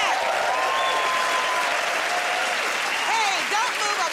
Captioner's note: cheers and applause